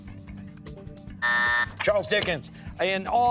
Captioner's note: timer